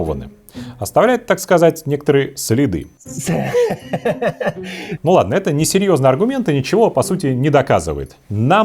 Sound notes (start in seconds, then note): 3.0 the untranslatable sounds of hysteria